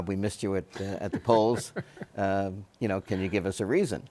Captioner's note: Bob laughs